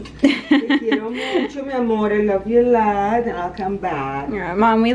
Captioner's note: in Spanish; in English